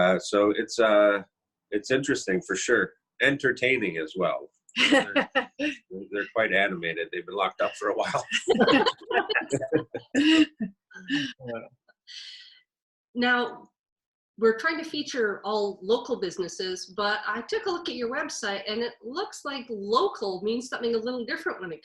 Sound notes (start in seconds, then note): 4.8 chuckles; 7.6 all chuckle